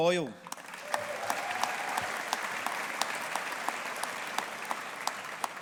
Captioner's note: audience applauding